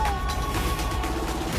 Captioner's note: scream